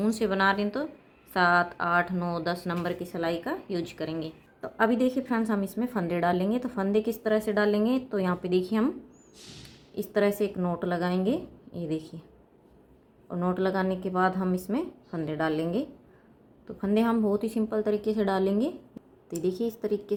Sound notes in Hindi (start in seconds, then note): 9.3 नाक से की जाने वाली आवाज़